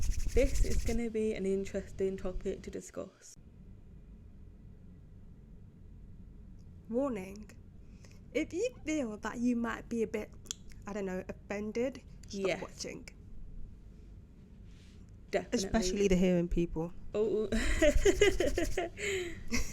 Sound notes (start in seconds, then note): 10.4 clicks tongue; 17.6 ooh *chuckles and hands rubbing